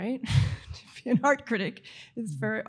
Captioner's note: laughs